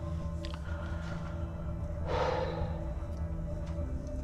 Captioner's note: exhales